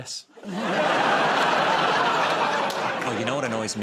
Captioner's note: laughter